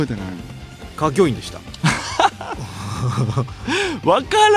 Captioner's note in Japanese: 笑い